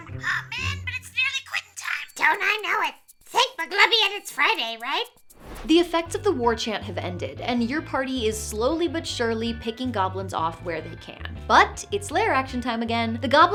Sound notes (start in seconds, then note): 5.2 whoosh